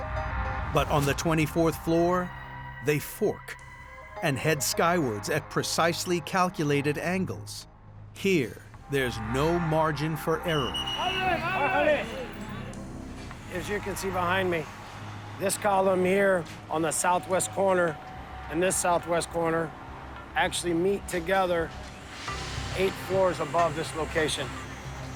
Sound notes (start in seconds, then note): 10.6 men shout